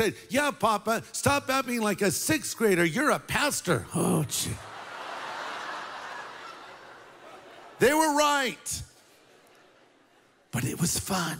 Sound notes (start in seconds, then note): 4.5 laughter